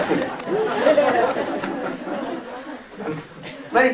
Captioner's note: смех